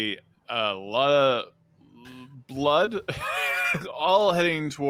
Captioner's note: laughs